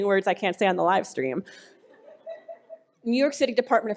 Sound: laughing

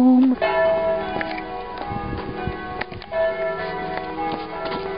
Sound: bells

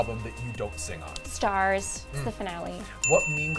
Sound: bell dings

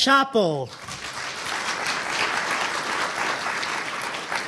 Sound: audience applauding

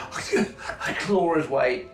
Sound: gasping

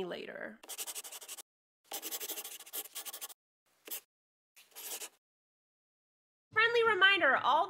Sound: the sound of a pen scratching. LOGO

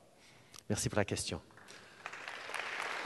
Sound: applause

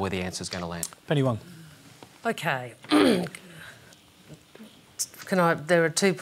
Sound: clears throat

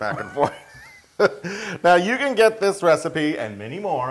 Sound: laugh

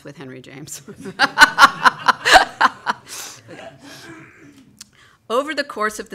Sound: laughter

